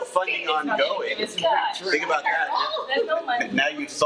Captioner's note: attendees chattering